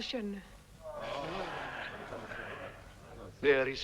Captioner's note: men protesting